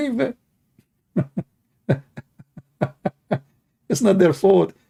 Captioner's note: Ketawa